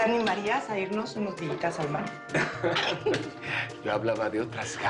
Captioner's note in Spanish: Risas